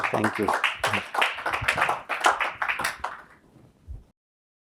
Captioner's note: applause